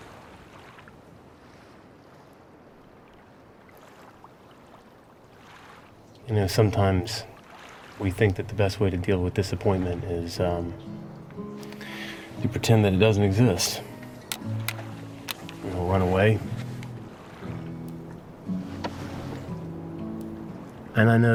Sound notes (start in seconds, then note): 3.2 waves gently rolling; 15.0 sunglasses clattering